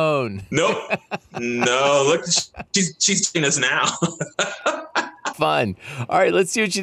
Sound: laughing

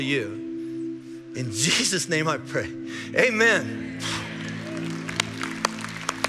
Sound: sighing

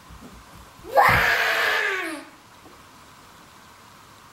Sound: screams

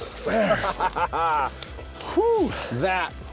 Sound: triumphant laughter

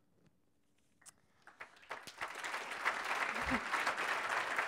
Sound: applause

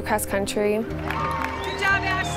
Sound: cheering

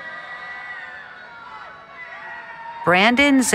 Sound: cheering

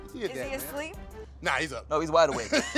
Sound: laughs

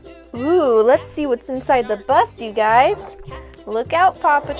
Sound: voice-over

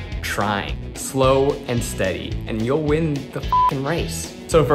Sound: beeps

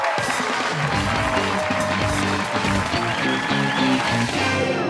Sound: cheers and applause

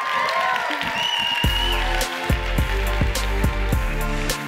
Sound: audience applauds

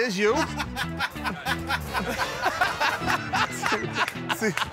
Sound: laughter

